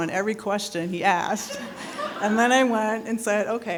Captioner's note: people laughing